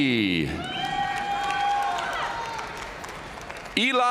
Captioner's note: audience cheering and applauding